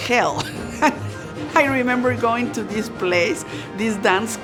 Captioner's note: laughs